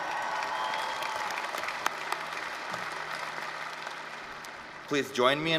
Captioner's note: applause, cheering